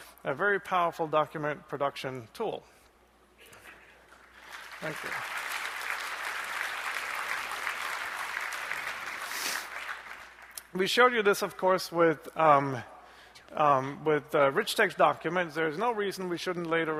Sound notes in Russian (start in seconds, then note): 4.0 аплодисменты